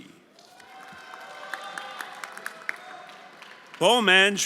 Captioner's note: everyone applauding and cheering